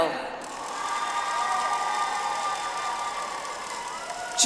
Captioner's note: audience applauds